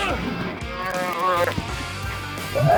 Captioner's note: grunts; calf moos; throwing up